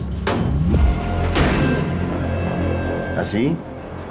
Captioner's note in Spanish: Portazo